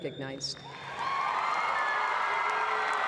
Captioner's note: applause